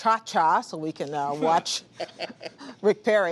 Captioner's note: laughter